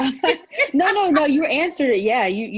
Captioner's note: laugh